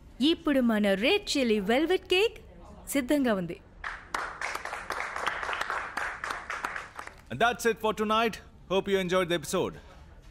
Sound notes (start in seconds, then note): 3.8 applauses